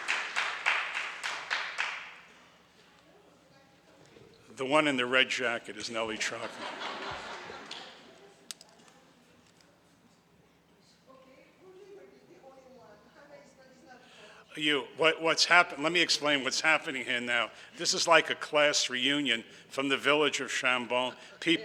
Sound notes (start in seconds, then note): 5.9 audience laughs; 10.6 speaking in the background